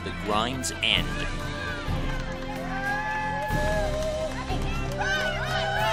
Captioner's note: cheering